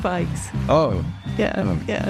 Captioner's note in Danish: Bifald